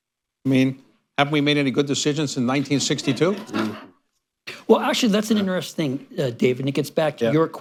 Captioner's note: laughter